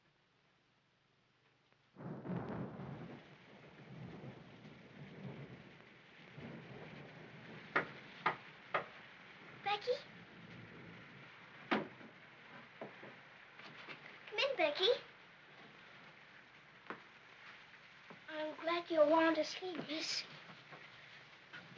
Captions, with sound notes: (thunder rumbles) (knocking at door) Becky? Come in Becky. I'm glad you aren't asleep miss.